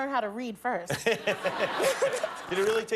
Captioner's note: laughter